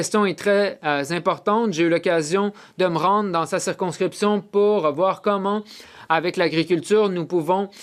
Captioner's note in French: voix de l'interprète